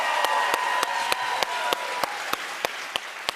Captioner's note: cheers and applause